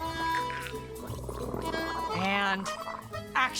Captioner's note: zombie vish gargling